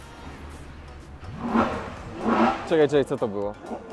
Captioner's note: engine rope